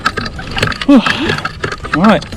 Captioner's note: sigh